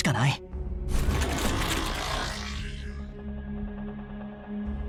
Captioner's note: whirring sound―